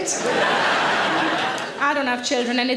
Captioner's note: audience laughing